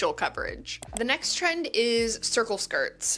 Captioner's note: mouse clicks